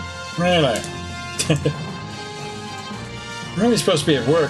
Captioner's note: laughs